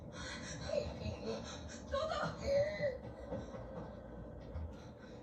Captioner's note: toto was laughing, creepily